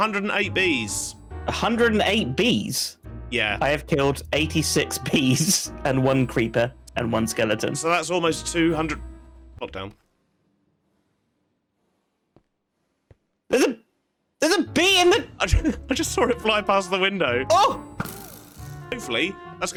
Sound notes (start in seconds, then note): 11.5 stunned silence